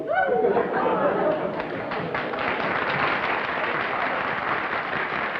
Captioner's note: applause